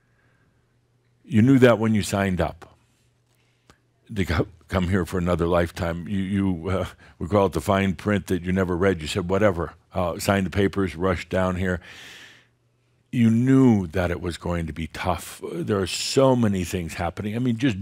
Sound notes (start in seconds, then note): none